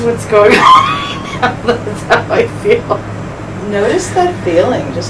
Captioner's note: laughing